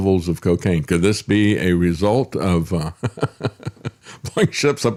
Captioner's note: laughs